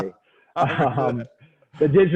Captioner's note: both laugh